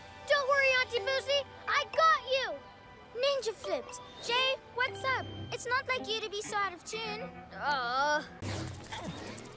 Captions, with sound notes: Don't worry, Aunty Busi, I got you! Ninja flips. Jay, what's up? It's not like you to be so out of tune. (Groans)